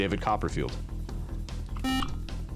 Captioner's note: beep